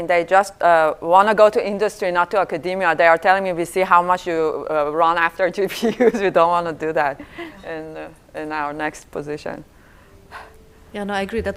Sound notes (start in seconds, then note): 5.9 laughs